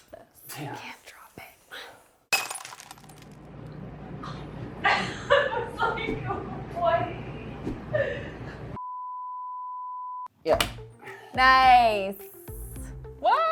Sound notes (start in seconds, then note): 2.3 glass shatters; 4.8 laughs; 5.1 continues beep